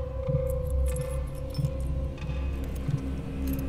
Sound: keys rattle

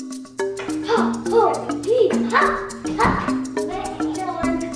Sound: martial arts sounds

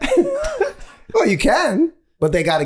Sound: all laughing

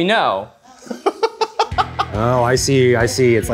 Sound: laughing

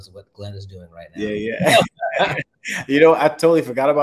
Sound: chuckles

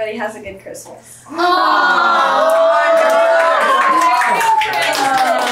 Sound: group cheers and applauds

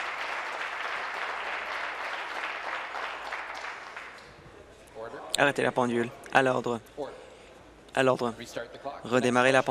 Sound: applause

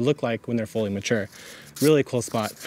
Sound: bag tears

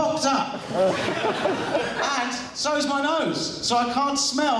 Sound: laughter

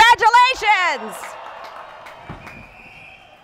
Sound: cheering

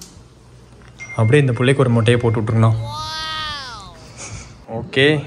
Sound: laughs

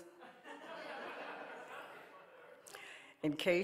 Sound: audience laughing

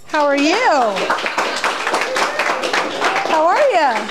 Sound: applause

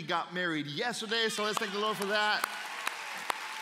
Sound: applause

